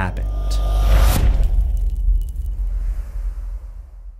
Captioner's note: impact